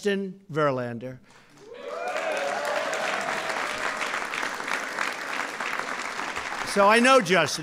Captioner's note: applause